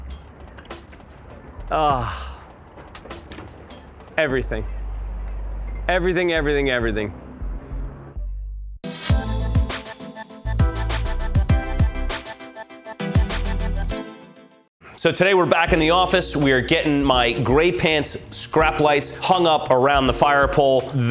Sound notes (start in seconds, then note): 1.7 sighing; 8.8 funky music